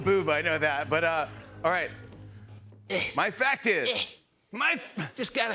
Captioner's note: grunting